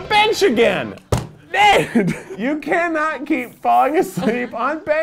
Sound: pounds desk

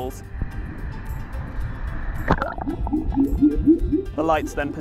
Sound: pulsating sounds

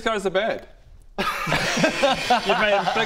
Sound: laughs in duh

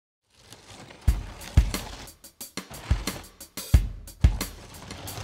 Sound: dragging

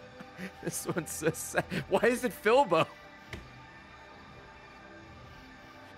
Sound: laughs; laughs

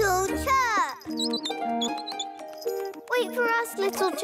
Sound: chirping

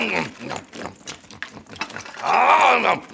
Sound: cookie pieces scattering

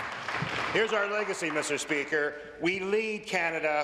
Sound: applause

